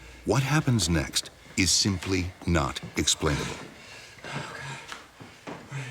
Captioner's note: voiceover